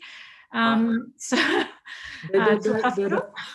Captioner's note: laughs